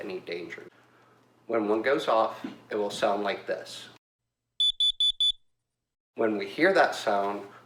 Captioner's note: carbon monoxide alarm beeping 4 times